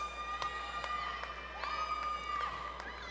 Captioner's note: applause